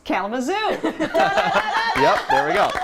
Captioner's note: laughter and applause